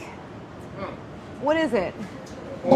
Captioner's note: grunts